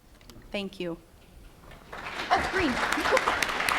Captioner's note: applause